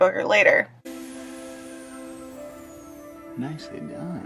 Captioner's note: drone flying noise